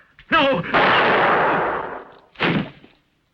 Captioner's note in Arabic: إطلاق نار